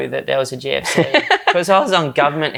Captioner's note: laughs